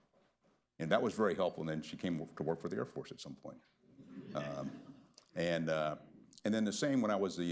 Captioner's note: laughter